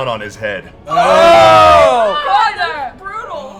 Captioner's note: yelling